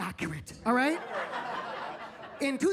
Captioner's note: attendees laughing